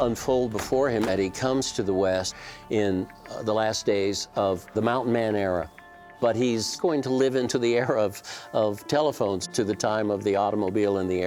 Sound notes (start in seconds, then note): none